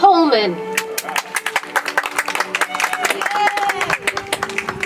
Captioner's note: audience applauds